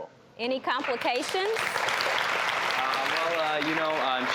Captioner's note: audience applauding